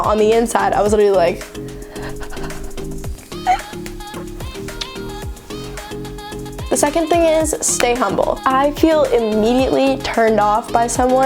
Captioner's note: breathes anxiously